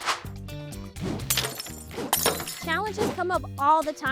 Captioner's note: lively music; glass shattering